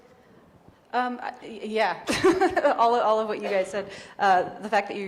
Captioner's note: chuckles